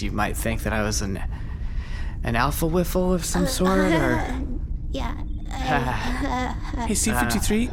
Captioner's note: weak almost-laughter